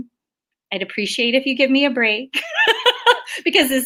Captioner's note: laughs